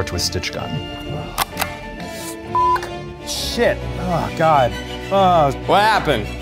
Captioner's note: gun clicks; beeps